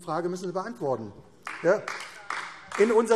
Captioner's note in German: Beifall AfD